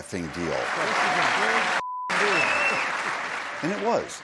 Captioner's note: cheering